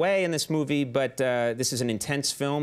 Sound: none

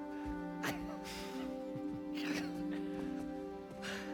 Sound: laughs

